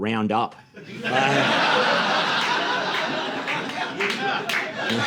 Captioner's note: audience laughing